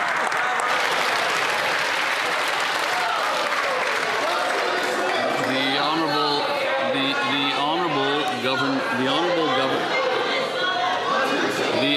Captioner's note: some Applause